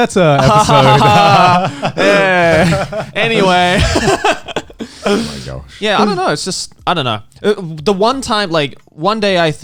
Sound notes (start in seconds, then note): 0.4 all fake laughing; 3.5 all sighing